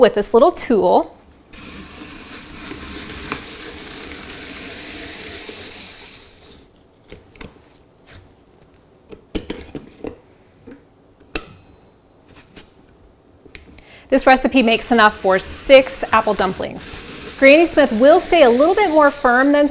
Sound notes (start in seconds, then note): 1.5 peeler whirring